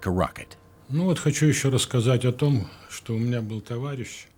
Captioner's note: Russian spoken audio